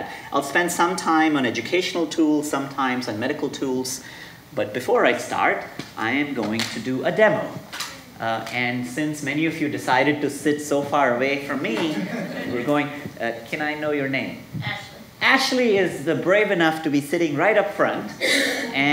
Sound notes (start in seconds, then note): 11.8 audience laughing